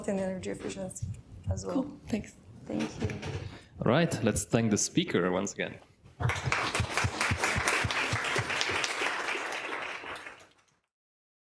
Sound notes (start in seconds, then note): 6.2 audience applauds